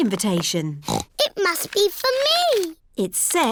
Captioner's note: snorts